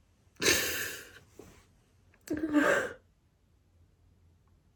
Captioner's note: sniffles, inhales sharply; gulps, exhales exhaustedly